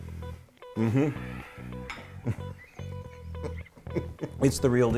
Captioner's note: laughing